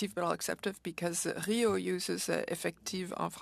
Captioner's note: speaking French